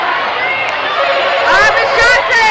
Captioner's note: buzzing